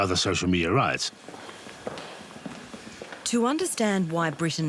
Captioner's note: footsteps tapping